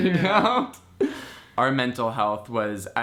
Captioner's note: both men laughing